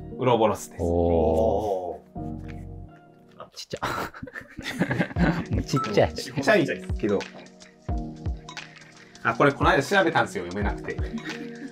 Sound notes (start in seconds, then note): 3.8 laughing